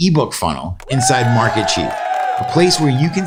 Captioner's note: crowd cheers